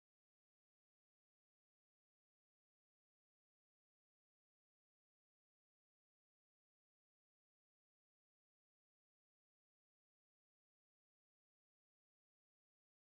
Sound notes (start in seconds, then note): none